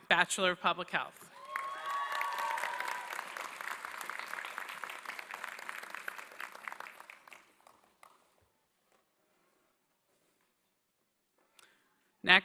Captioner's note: applause